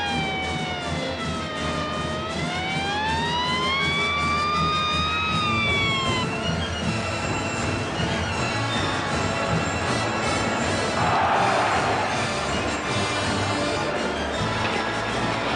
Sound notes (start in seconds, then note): 11.0 crowd applauds and cheers